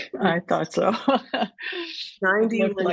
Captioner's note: laughter